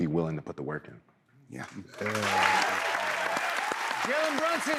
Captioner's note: cheers and applause